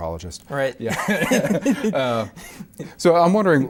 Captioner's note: both laugh